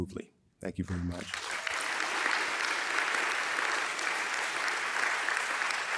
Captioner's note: audience applauding